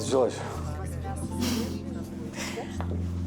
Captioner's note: chuckles